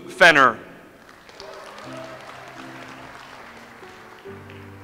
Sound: audience applauds

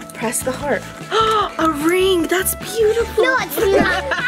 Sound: gasps

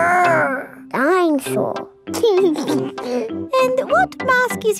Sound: giggles

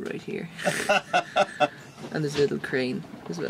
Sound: laughs

